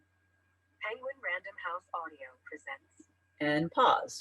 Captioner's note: voiceover